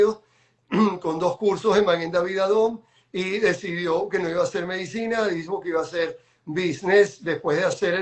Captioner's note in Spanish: carraspeo